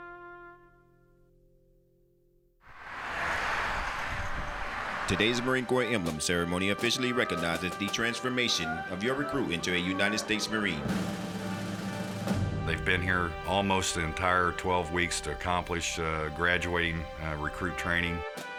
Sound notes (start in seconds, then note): 2.8 car engine roaring